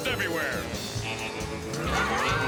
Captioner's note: tires squeal